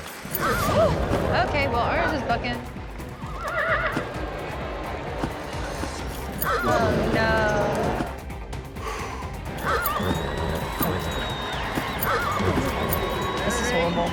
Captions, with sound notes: [HORSE NEIGHING] OKAY, WELL OURS IS BUCKING. [HORSE NEIGHS] OH NO... [EXHALES] [HORSE BUCKING]